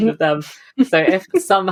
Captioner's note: laughing; laughs